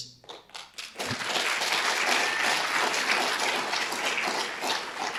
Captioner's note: audience applauding